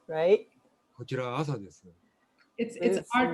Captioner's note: speaking japanese